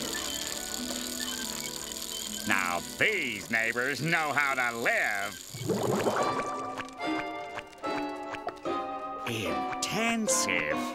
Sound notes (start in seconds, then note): none